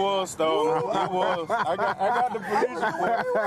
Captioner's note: all laughing